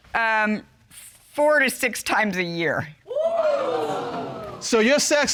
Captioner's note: audience exclaims